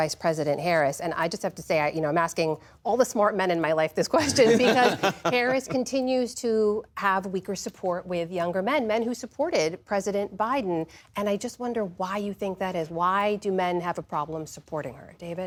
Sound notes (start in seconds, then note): 4.2 laughter